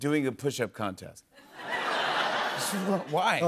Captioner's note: laughter